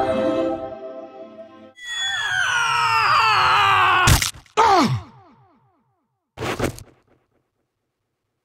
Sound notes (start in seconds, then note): 4.0 splat; 6.3 clothes rustling on sand